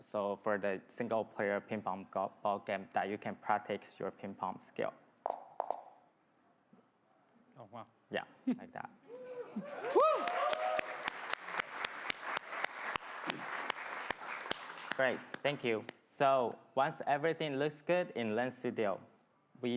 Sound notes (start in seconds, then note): 9.6 crowd clamoring and clapping